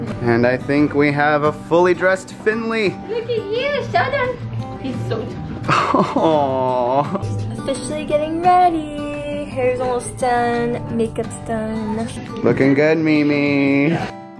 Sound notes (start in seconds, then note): 5.6 chuckles; 14.1 soft guitar music